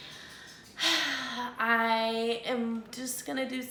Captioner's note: sighs